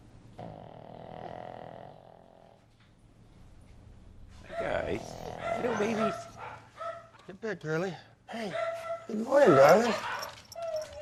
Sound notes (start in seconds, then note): 0.3 dog continues snoring; 9.3 dogs whimpering